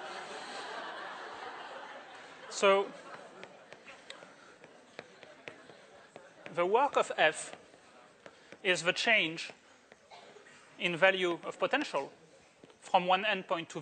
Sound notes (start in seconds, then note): 0.0 laughter